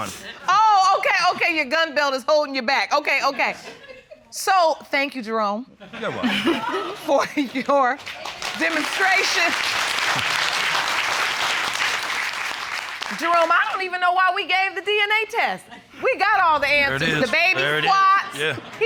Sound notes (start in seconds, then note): 6.7 laughs; 8.0 all applaud